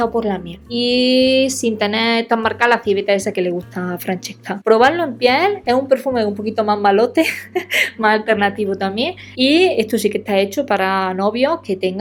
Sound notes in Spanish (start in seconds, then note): 7.2 risas